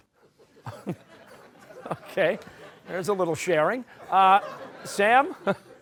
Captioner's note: chuckling